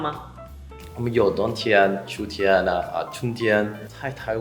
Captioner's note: in Supein